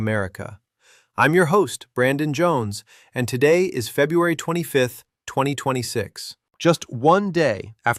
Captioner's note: excited